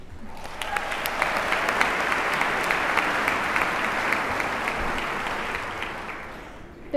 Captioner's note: applause